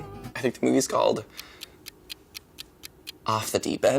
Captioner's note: timer ticks